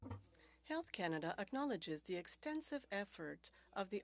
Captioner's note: speaking French